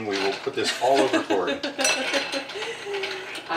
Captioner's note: laughing